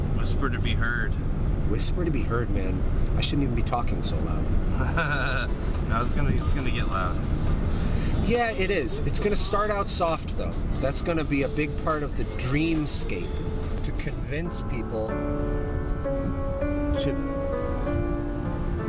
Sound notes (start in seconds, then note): 4.7 laughs